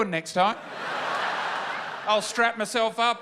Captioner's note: laughter